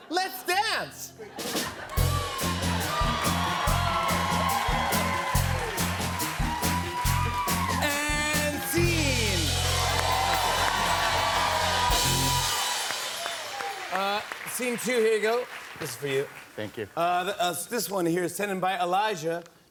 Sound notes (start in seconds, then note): 9.8 cheers and applause